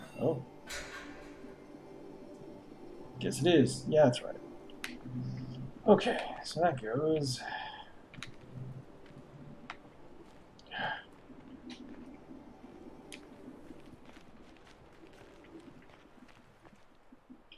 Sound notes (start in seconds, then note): 10.5 sighs